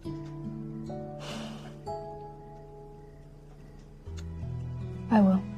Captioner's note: sighs